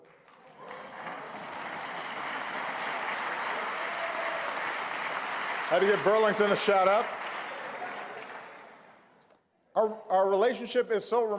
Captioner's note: applause